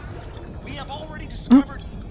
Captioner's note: laughs